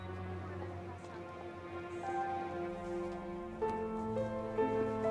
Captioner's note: students chattering; tense piano music